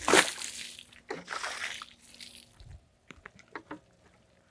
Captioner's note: water splashes